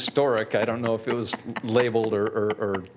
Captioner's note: laughter